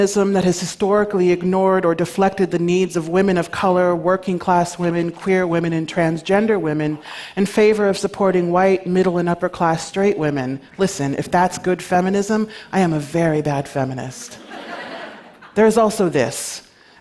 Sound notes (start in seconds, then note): 14.3 laughter